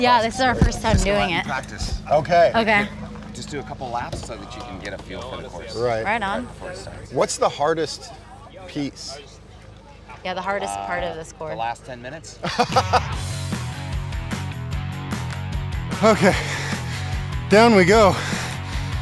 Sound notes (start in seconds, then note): 12.4 laughing; 12.7 rock music